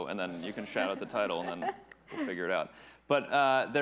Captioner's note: chuckles